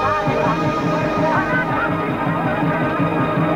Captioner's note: shouting in native language